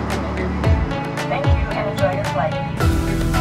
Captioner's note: announcement in English